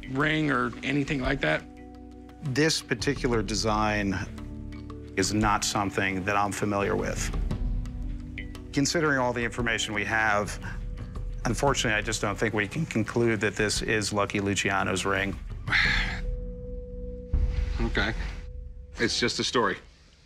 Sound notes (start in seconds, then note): 15.6 sighs